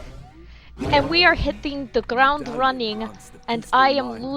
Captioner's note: in a mess of an accent